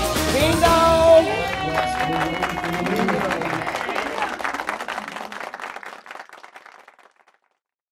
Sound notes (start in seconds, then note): 0.4 residents applauding